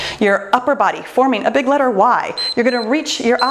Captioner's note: timer beeps